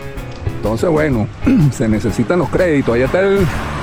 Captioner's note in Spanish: carraspeo